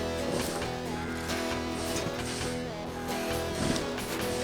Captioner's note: digging Sounds